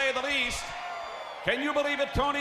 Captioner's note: crowd cheering